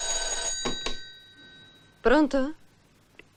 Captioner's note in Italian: campana